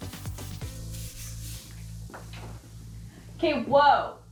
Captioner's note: upbeat pop music continues; paint roller swishing